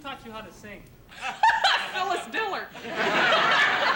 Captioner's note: laughs